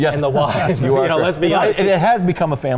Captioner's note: laughing